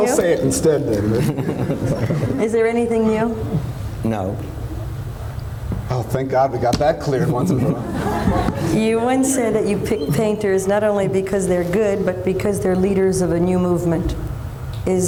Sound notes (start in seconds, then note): 7.2 laughter